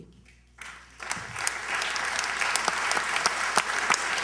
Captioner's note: applause